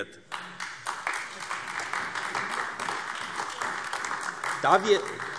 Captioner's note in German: Beifall AfD